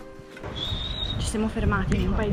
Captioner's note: whisteling